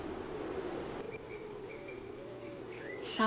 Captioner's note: birds chirping